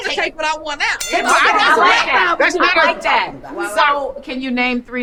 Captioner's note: bell chiming; group arguing